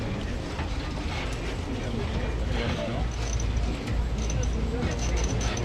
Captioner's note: tourists chattering; tram clattering